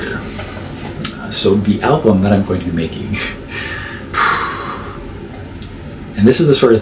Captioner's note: sigh